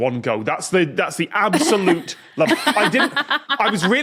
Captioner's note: laugh